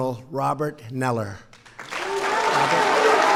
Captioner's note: applause